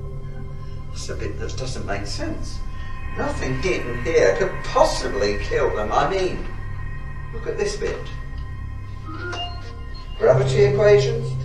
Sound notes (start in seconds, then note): 8.9 beep